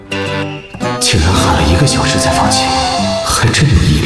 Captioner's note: screamed for a full hour